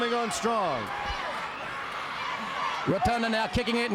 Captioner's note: crowd chatter